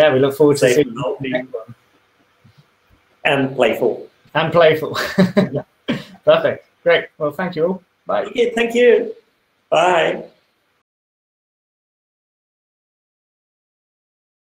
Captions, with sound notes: - We look forward to it. - And staying healthy and playful. - And playful. (laughs) Perfect. Great. Well, thank you, bye. - Okay, thank you. Bye